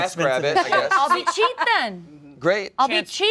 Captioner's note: laughter